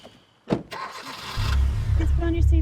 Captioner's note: engine starts